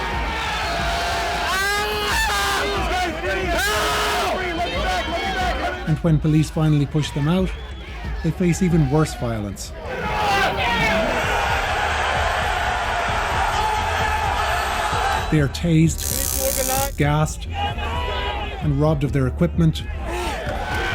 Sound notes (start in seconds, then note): 0.5 screaming